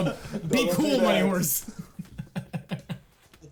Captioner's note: players laughing